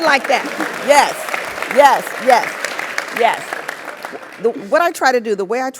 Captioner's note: applause